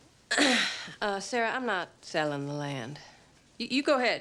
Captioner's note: coughs